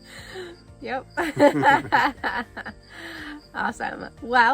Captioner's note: laughs